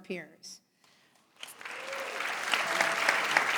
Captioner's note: applause